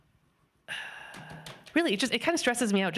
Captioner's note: sighs